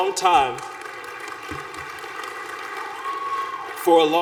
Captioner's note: applause